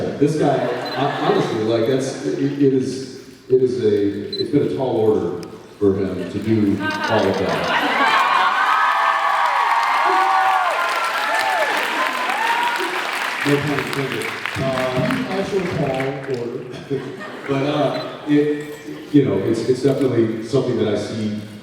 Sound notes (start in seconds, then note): 6.2 laughs; 7.8 cheers, applauds; 16.8 laughs